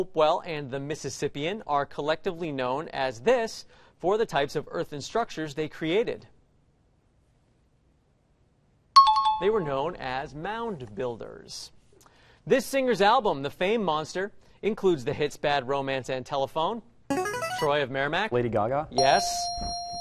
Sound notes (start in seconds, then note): 8.9 bell rings; 16.3 buzzer plays; 19.0 ding